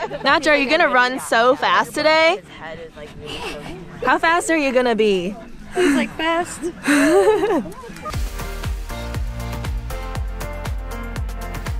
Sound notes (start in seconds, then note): 5.3 dog panting; 6.8 camerawoman laughing; 7.3 upbeat music